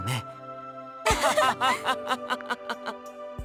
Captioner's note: laugh